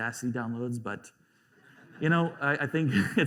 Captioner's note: laughter